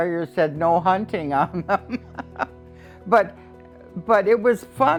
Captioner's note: laughing